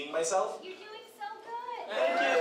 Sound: voiceover

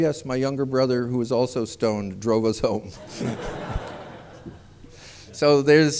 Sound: laughter

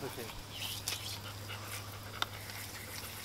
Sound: dog panting

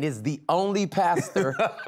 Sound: laughing

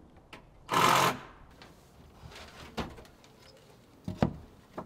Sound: wood rustling loudly

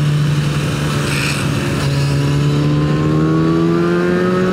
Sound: scrrrrraaaaaape

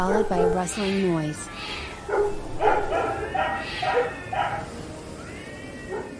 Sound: barks and cat groans; barks and groans fade. Sound of wind

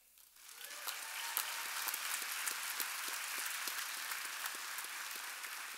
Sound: audience applauding and cheering

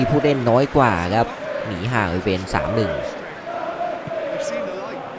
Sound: applause

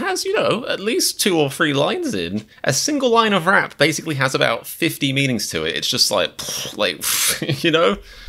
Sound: mind blown noises

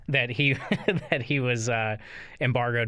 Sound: chuckle

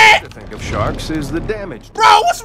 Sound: voiceover

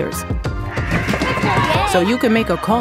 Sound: children running

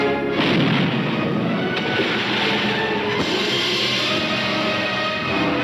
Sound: cannon roaring; water splashing

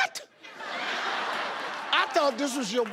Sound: crowd laughs

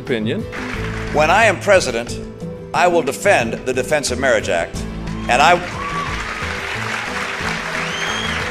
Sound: applause

